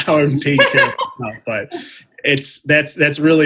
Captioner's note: laughing